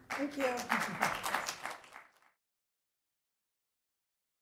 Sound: applause

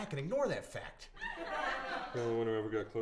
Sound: audience laughter

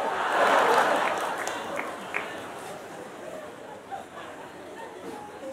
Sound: laughter

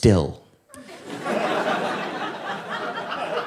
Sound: audience laughing

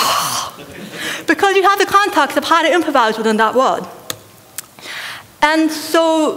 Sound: laughter

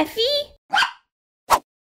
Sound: bark!

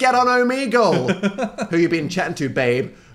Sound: Phil laughs

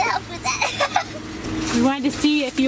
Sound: laughing

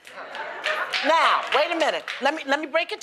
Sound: applause; laughter

